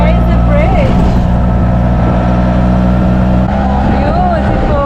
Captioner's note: auto engine